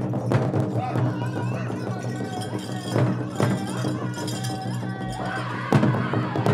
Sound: regalia ornaments jingling; lead singer singing; singers singing with high cadence

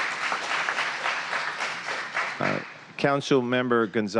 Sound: cheers and applause

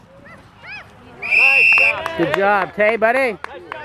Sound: whistle blows

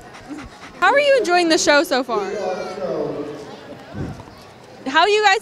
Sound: dog panting; dog licking lips

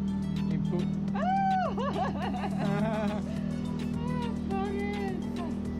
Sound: delighted laughter

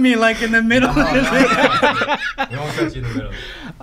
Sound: laughing

